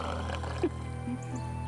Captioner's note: growling